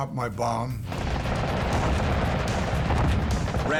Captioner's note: gunfire